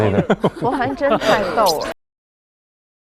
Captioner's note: laughs